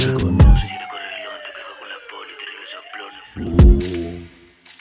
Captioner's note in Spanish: woo